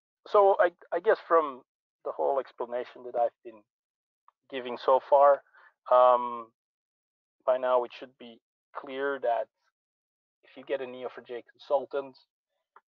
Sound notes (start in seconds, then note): none